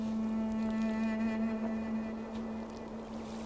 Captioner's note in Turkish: Kuş cıvıltısı sesleri